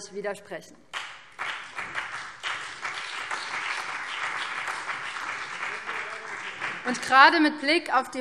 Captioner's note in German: Beifall BÜNDNIS 90/DIE GRÜNEN und der CDU